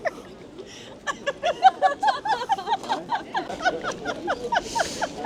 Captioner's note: all laughing